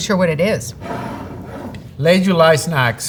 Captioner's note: jar sliding